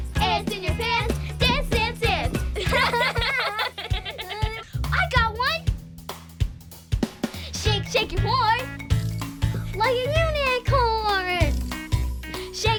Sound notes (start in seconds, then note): 2.5 laughing